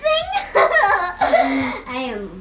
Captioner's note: laughing